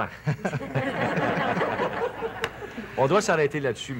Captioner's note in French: rires